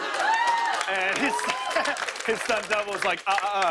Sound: cheers and applause; normal voice

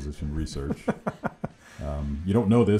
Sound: laughing

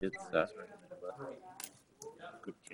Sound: murmuring

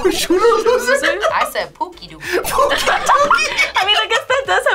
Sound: laughs

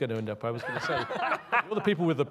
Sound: laughs

